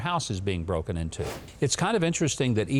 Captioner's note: whooshes